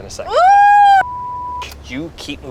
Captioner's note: beep